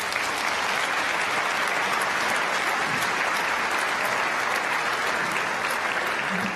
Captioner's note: applause